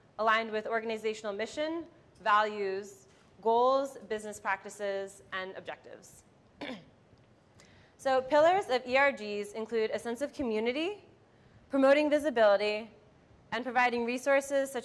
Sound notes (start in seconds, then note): 6.6 clears throat